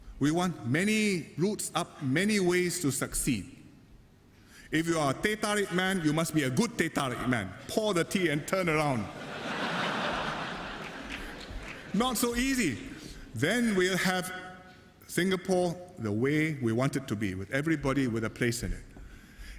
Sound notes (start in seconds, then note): 9.1 laughter